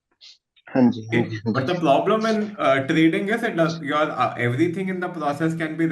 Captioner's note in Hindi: गला साफ़ करने की आवाज़